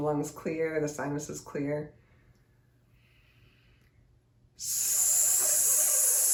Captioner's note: inhales and hisses